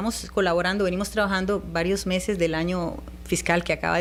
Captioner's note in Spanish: Hablando ingl\s